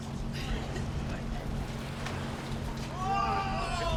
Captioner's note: giggles